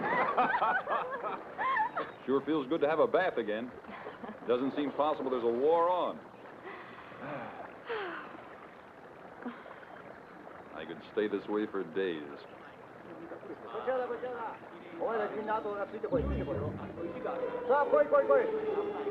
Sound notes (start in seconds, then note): 0.0 Don and Delia laughing; 6.6 Don and Delia sigh; 12.2 Japanese soldiers chattering